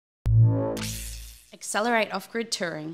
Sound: electricity sizzles

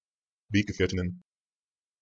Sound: fast Pronunciation

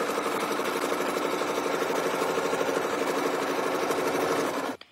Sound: sewing machine whirring

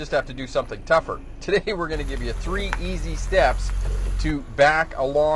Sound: engine roaring

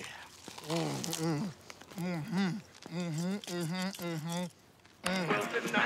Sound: man groans and crunches loudly

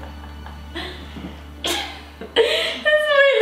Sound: laughs

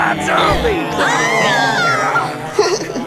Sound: screaming

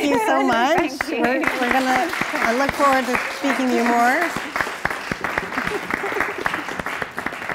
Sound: applause

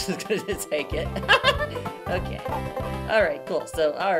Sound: laughing

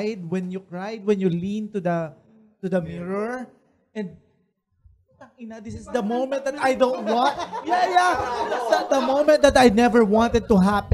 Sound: laughter

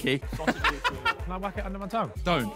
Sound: laughs

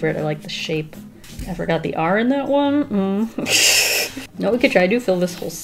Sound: laughs

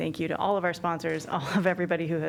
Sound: laughter

